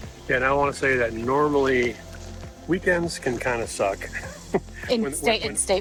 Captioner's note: laughs